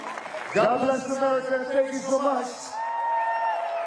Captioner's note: applause